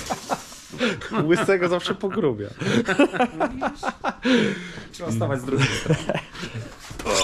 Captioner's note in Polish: śmiech